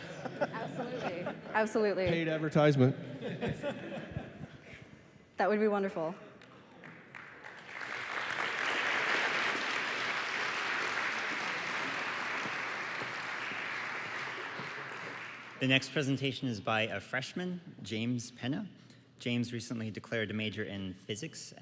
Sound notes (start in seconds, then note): 3.1 laughing; 7.6 applause